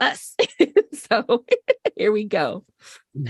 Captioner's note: laughter